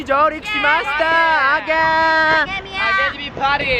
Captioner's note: excitement